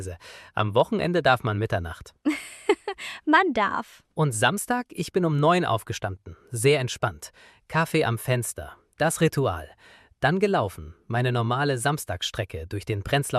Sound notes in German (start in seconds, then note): 2.2 gelächter